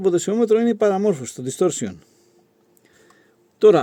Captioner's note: distortion